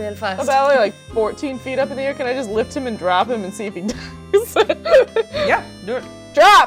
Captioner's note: laughs